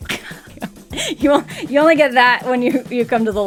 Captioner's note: laughs